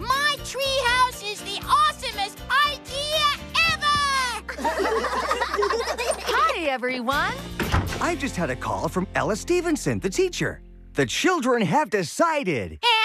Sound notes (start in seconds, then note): 4.5 laughter